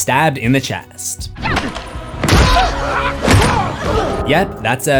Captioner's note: screams